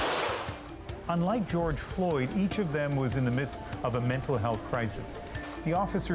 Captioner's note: gunshots